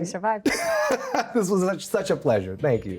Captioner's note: laughs